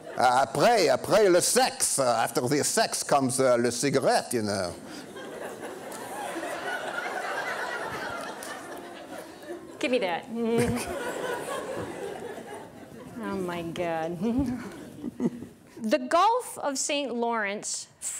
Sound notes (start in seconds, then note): 4.8 audience laughing